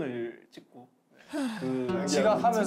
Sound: sigh

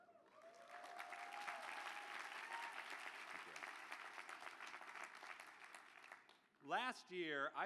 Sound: applause

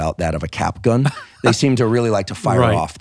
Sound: laughing

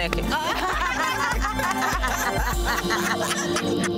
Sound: women laughing

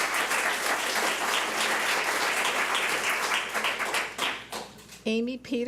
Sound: public applauding

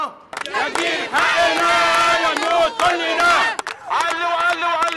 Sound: chants

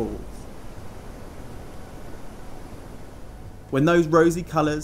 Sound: splashing water

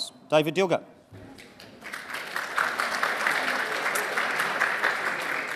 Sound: audience applauding

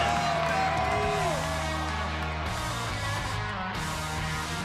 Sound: crowd cheering; upbeat music

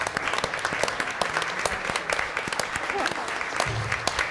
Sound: applause

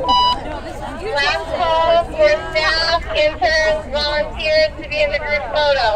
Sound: everybody talking

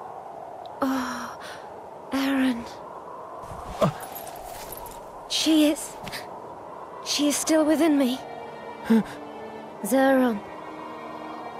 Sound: in-game audio

